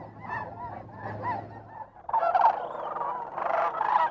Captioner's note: birds squawking